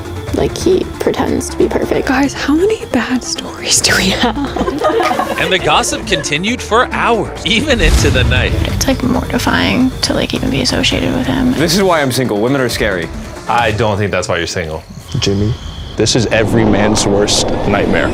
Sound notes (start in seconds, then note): 3.9 laughing